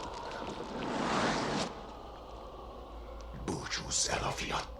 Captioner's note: squishing sounds